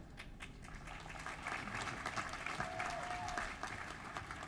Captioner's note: applause